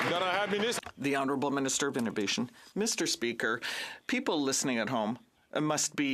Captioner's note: some Applause